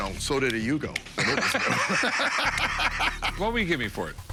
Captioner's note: laughter